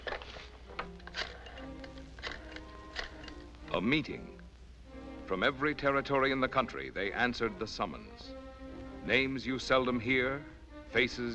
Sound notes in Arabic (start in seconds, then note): 3.2 تعليق صوتي